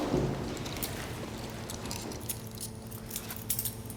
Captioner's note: handcuffs jingling